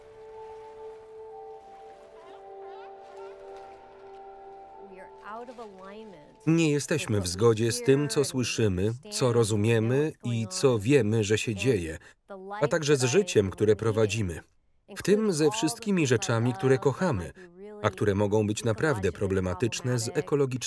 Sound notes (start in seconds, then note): 2.3 seal barking